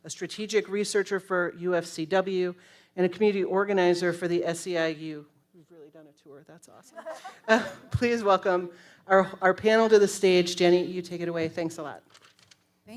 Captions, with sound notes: a strategic researcher for UFCW, and a community organizer for the SEIU. We've really done a tour, that's awesome. (panelist laughs) Please welcome our panel to the stage, Jenny, you take it away. Thanks a lot.